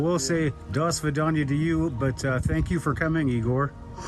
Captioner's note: speaks in a foreign language